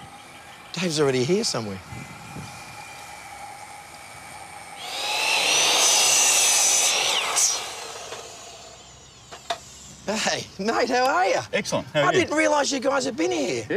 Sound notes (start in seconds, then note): 4.7 saw grinding